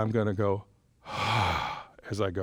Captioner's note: exhales